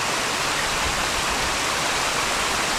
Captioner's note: water Running